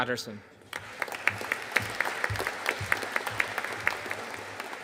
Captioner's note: audience applauding